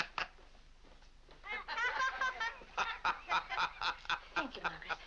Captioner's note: laughing; boys and Mr. Day laughing